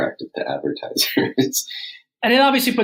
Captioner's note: laughs